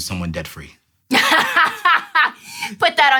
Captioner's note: laughter